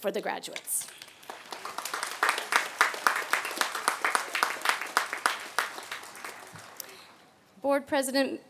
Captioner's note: applause